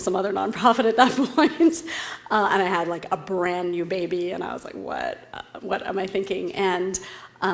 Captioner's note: laugh